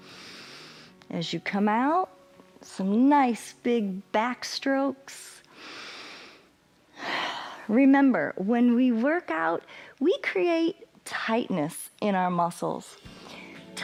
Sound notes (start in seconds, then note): 0.0 inhales; 5.5 inhales and exhales